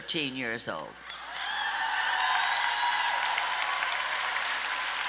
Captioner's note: audience cheers